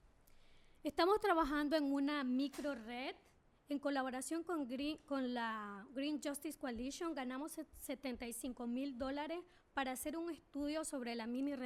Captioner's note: speaking spanish